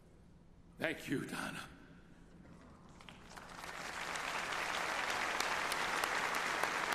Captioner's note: applause